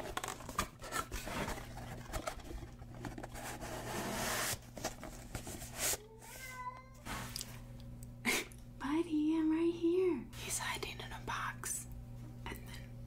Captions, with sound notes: *meow* buddy I'm right here he's hiding in a box and then